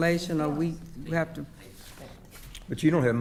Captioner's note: speaking quietly